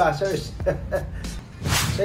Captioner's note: laugh